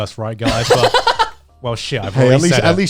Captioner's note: chuckling